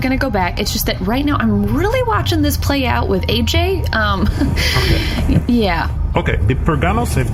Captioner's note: laughs